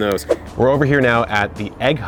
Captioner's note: whooshing